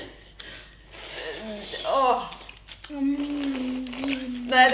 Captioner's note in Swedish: sörplande